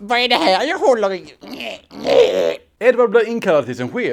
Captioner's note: swedish noises